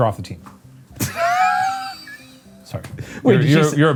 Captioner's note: laughs